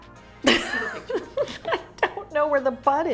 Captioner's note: laughs